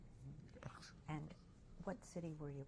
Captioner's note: laughs